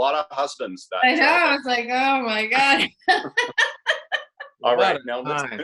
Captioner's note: laughs